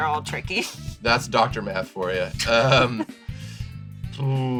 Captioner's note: laughs